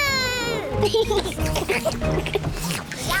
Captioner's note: all slurp